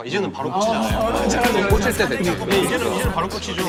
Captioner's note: chattering